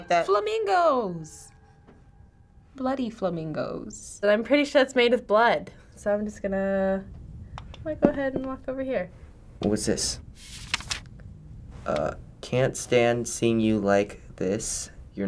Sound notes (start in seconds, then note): 10.4 paper flipping